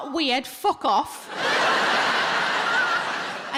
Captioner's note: audience laughs